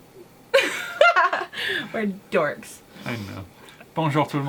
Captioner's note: laughter